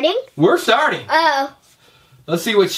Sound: voiceover

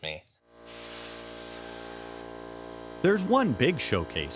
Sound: air compressor running

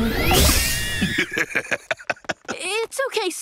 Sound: laughing

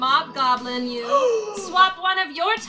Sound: gasps

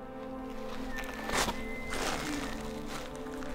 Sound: elk Bugling

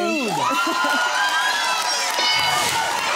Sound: cheering and applause

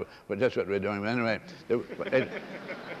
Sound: laughter

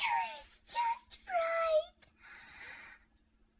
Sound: gasp

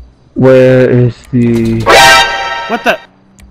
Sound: automatic Gunfire

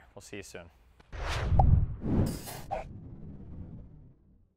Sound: logo swishing

